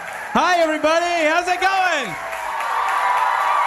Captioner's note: transition, crowd applauding